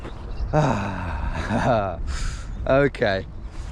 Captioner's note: chuckles